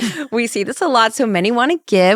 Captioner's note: laughs